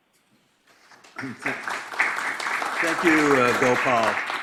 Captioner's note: audience applauds